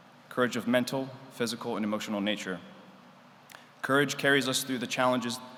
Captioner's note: none